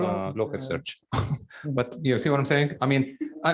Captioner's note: laughs